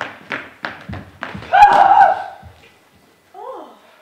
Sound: screams

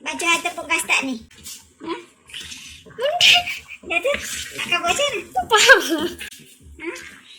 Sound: laughing

